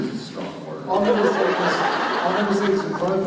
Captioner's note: laughter